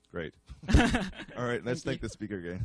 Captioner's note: both laugh